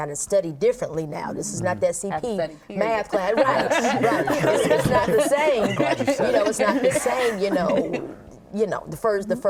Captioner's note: laughter